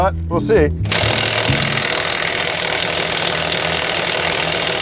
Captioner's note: impact wrench hammering